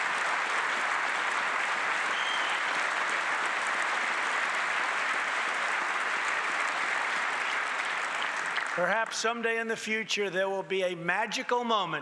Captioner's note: applause